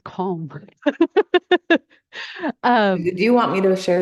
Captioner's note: laughter